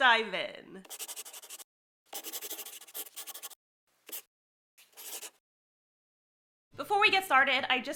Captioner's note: the sound of a pen scratching. LOGO